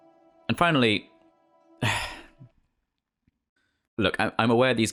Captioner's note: sigh